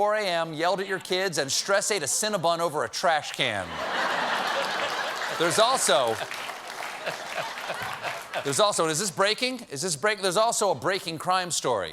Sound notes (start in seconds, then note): 3.6 laughter; 3.9 applause